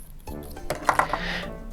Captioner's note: tube clatters